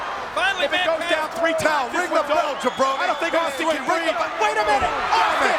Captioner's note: overlapping chatter